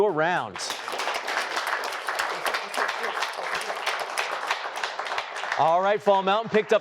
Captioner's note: applause